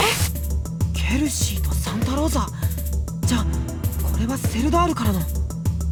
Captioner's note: whisper